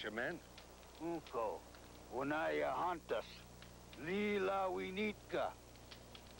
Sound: speaking Sioux

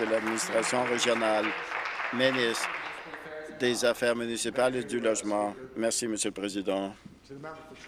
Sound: applause

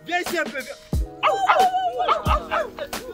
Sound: cat calls

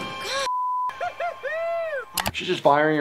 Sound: beep; boy cheers

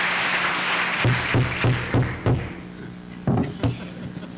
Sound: gavel pounding

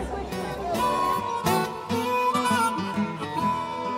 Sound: crowd noise

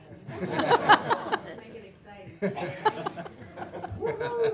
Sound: laughing

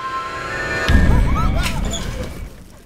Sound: crowd screams; scary music

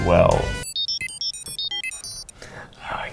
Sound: formulae beeping

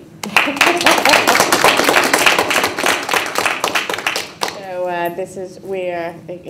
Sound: applause

